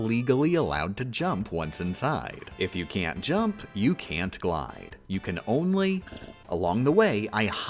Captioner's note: sip